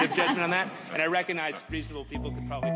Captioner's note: laughs